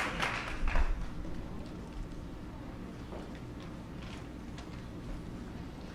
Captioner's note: applause